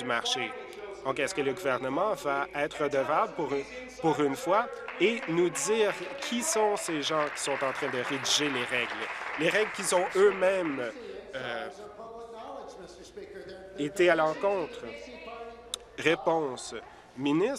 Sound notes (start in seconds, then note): 11.7 applause